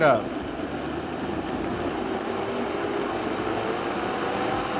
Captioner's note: blender rumbling